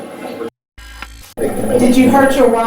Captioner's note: static fizzing